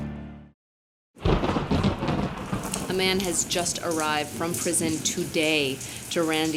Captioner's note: thunder crashes